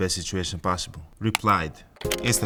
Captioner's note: keyboard clicking; slow music